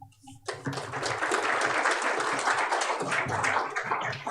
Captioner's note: applause